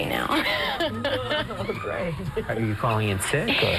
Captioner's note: laughing